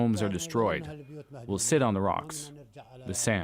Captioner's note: speaking alternate language